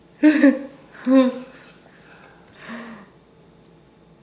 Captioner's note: laughing